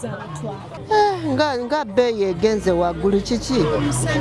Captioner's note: speaking in Luganda